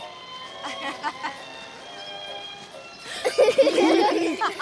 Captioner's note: all laughing